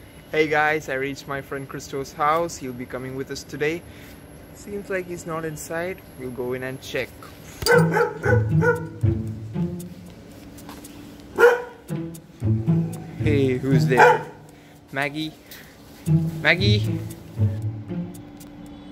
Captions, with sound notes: Hey guys I reached my friend Cristo's House He will be coming with us today Seems like he is not inside, we will go in and check ( Dog barking ) ( Background music ) Hey whose there....? Maggie Maggie